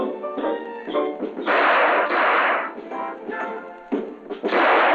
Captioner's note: gunshots